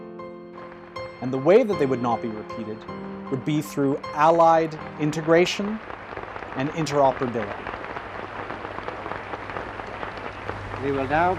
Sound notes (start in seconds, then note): 6.9 applause